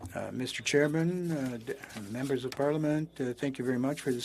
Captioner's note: speaking French